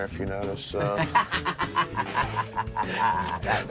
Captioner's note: laughter